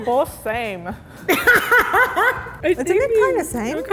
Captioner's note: laughs